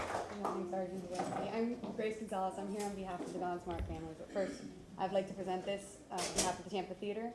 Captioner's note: applause